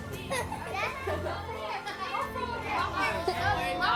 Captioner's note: kids laughing